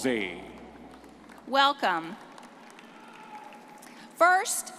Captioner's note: audience applauding